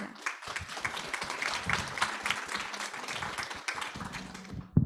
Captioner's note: audience applauds